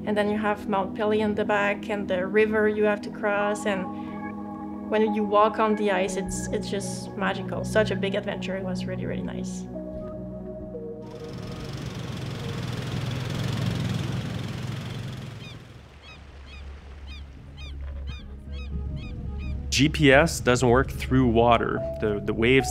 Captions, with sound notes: And then you have Mount Pelly in the back and the river you have to cross. And when you walk on the ice, it's just magical. Such a big adventure. It was really, really nice. [ATV engine sounds] [Seagulls squawking] GPS doesn't work through water. The waves